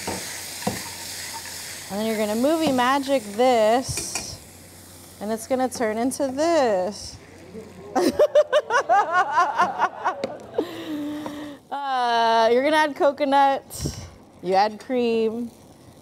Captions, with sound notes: And then you're going to movie magic this, and it's going to turn into this. [Laughter] You’re going to add coconut, you add cream,